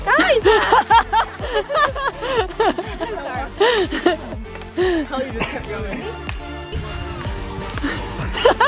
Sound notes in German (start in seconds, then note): 0.0 aufgeregte Musik; 0.0 lacht